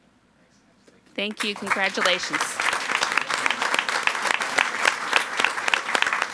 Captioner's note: all applauding